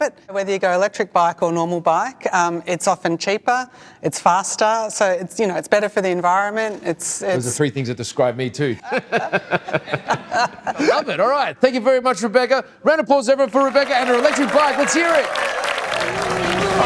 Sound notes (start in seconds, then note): 8.8 all laughing; 15.6 audience cheering